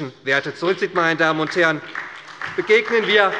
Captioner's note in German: Beifall bei Abgeordneten der SPD